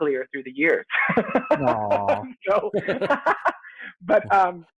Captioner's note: loud laughter